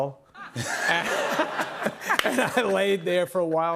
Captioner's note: laughter